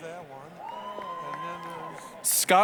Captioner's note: applause, cheering